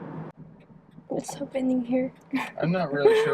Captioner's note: chuckles